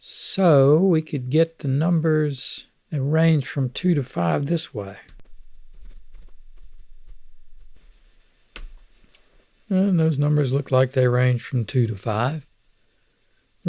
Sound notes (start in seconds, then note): 4.4 clicking